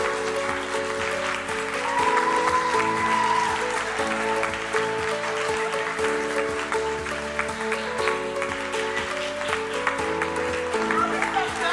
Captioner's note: cheering and applause